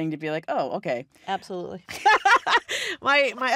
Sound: laughs

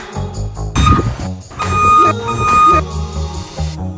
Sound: van reverse beeping; upbeat music

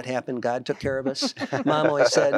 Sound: laughter

